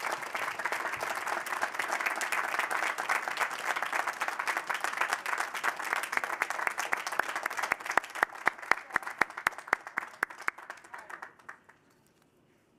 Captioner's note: applause